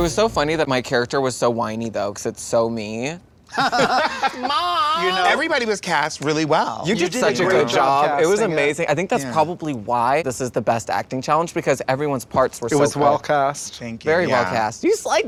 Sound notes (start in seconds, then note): 3.6 laughs; 3.6 whiny tone